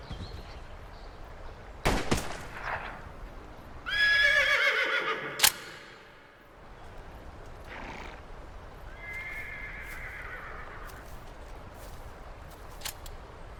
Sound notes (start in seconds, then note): 3.8 horse noises